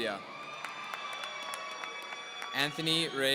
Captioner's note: audience cheering